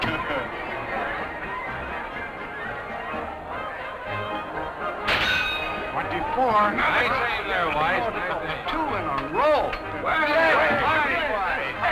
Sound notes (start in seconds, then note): none